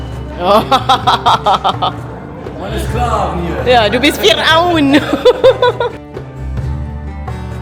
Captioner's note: laugh; speaking German